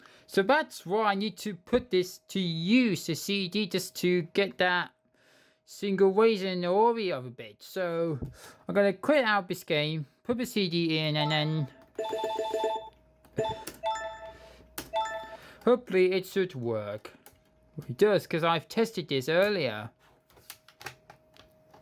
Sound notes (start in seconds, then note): 11.9 toca 2 main menu navigation sound; 21.6 laptop dvd drive reading